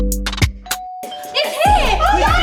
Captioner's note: doorbell ringing